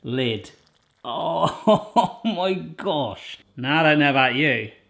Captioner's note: laughing